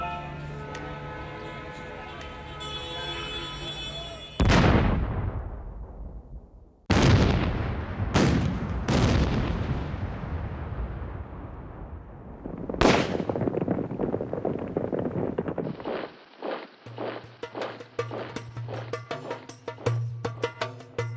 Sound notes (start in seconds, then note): 4.1 explosions; 12.8 shooting; 17.1 background music